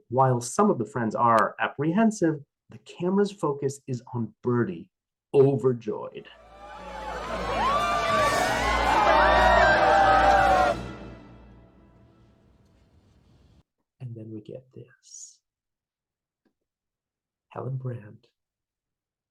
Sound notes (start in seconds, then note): 6.4 raucous party cheers; 9.7 sharp cut to utter silence